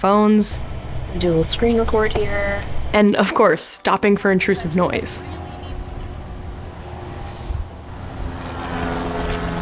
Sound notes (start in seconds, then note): 4.2 plane roars